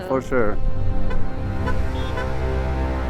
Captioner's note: light honking